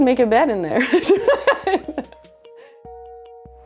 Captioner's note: laughter